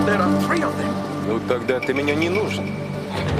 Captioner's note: speaking Russian; laughs, speaking Russian